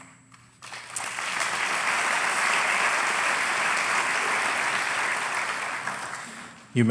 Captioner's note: applause